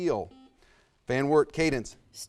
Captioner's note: buzzer buzzes